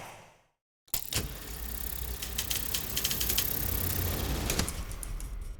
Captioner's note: film rolling sound